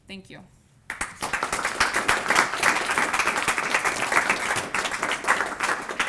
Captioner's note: applause